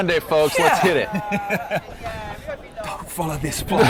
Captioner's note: laughs